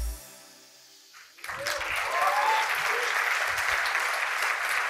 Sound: cheering and applause

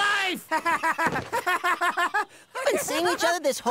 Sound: Max is laughing uncontrollably

